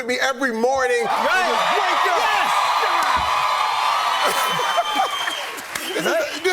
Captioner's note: cheers and applause